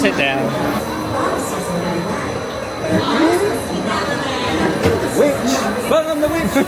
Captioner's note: speaks in Spanish